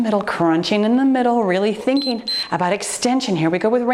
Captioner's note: timer beeps